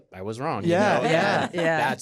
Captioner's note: all agreeing